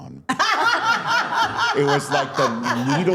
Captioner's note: all laughing